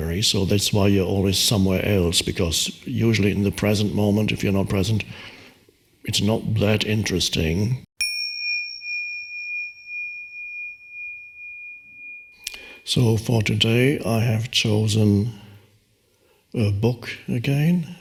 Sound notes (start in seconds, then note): 8.0 bell chimes